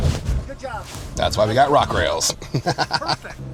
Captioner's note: laughing